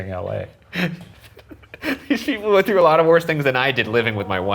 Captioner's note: laughs